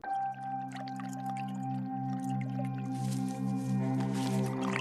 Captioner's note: liquid bubbling